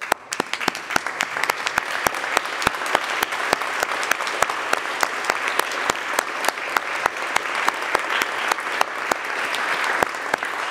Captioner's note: applause